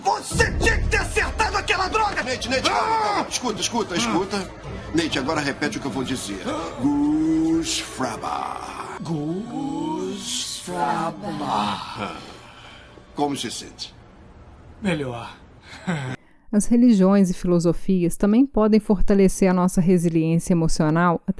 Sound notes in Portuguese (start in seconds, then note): 15.7 risos